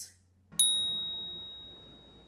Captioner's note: ding